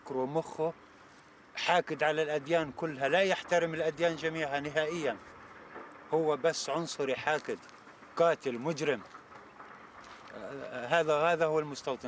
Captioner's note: speaking alternate language